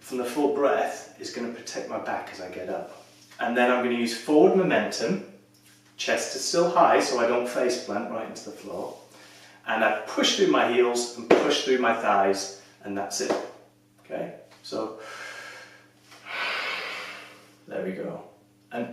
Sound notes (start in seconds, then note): 12.1 claps hands on thighs; 14.9 exhales; 16.2 breaths in deeply